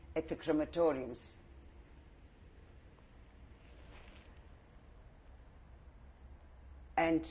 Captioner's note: pauses for 6 seconds